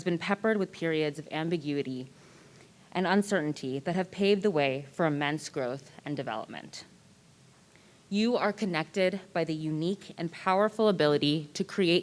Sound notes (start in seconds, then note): none